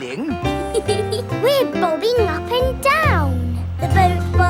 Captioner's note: giggles